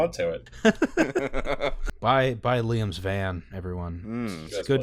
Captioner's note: laughter